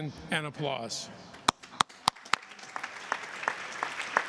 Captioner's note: applause